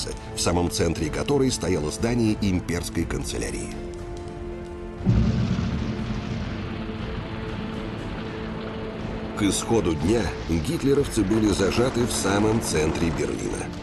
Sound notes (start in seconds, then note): 5.0 sounds of battle